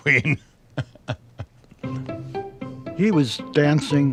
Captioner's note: laughs